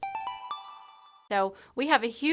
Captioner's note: chime